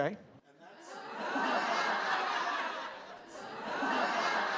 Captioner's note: audience laughing